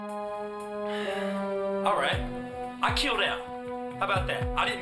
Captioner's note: sighs